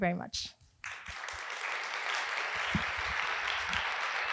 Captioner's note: applause